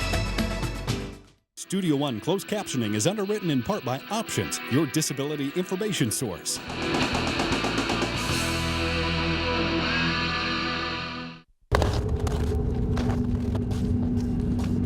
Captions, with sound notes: - [Voiceover] Studio One Closed Captioning is underwritten in part by Options. Your disability information source. (approaching footsteps)